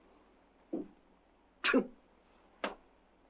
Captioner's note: scoffs